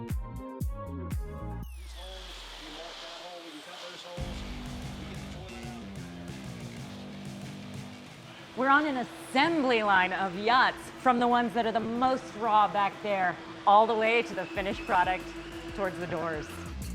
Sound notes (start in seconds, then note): 2.2 machines buzz in background